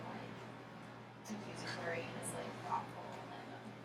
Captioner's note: speaking softly